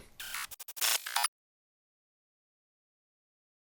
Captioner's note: static